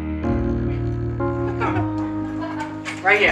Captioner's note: gentle affecting music; family laughing softly